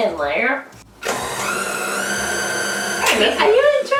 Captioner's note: mixer noise